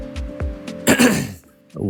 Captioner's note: coughs for no reason like an idiot